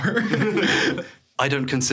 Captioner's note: everyone chuckling